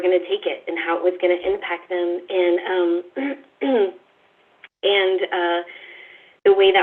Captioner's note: coughs